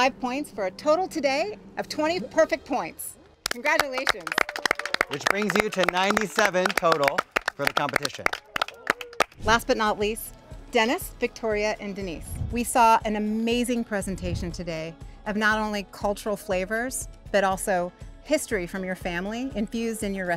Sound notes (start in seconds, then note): 3.4 all applauding